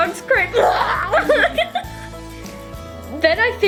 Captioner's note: both laugh; fake-pukes